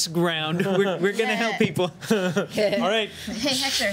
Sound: laughing

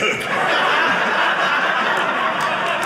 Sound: audience laughing

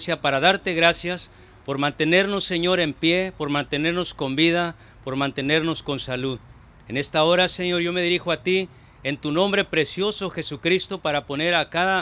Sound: praying in spanish

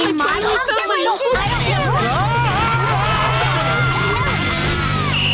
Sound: clamoring; screaming; whistling

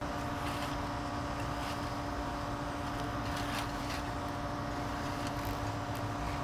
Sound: rake scratching the grass and leaves

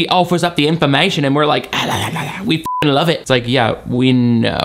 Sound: beep

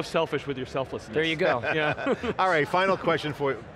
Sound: laughs

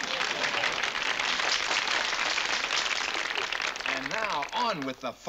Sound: applause

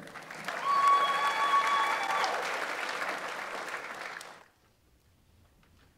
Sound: audience applauds; audience members cheer

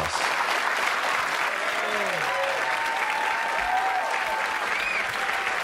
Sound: audience cheering and applauding

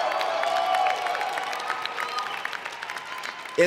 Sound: cheers and Applause

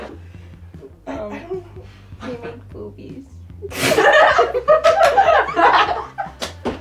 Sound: all laughing

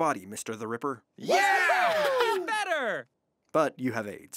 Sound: cheering

